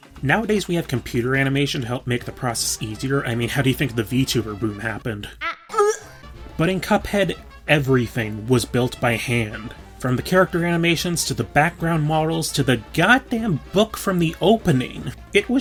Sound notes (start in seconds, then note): 5.3 gag